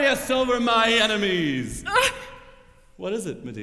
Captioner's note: stifled sob